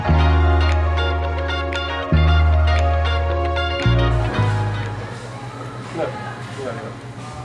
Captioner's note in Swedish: Applåder